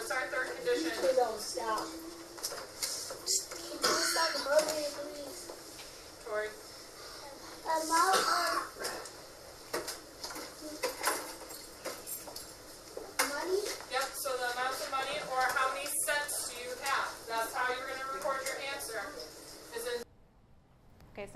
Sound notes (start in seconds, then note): 8.6 voiceover; 14.8 voiceover